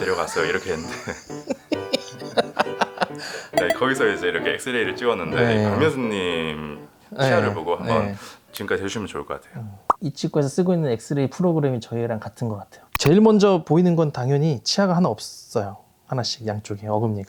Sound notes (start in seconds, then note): 0.0 hahahahahaha